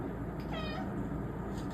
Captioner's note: meows